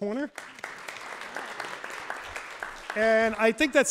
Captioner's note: audience applauds